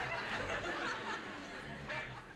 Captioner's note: laughter